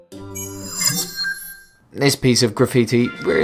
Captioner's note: sharp chiming